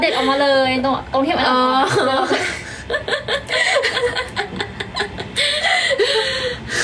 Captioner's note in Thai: เสียงหัวเราะ